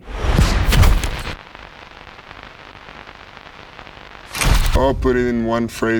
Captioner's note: static crackling